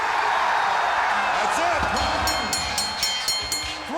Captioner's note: crowd cheering; bell ringing; lively music